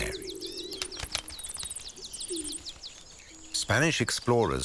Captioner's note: birds chirping